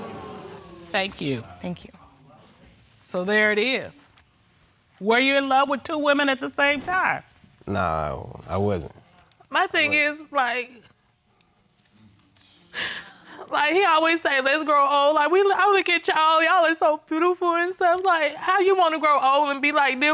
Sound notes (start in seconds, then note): 12.6 sobbing